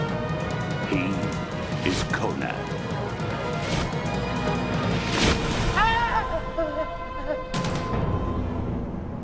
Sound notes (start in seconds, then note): 5.7 screaming